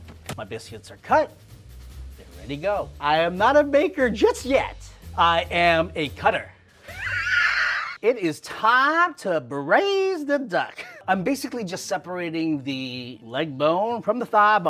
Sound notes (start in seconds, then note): 6.9 laughs